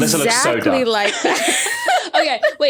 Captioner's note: laugh